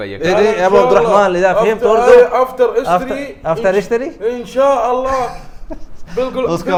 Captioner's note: Arabic